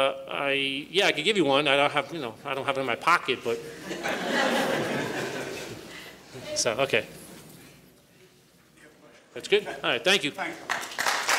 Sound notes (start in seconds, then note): 3.8 laughter